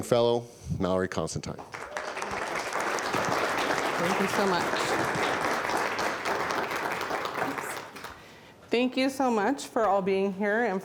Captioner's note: applause